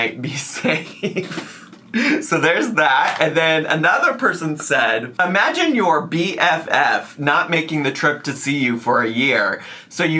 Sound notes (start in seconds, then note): 1.2 laughing